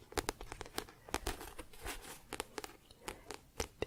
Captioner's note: tapping on book